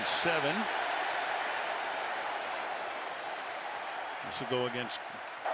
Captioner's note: cheering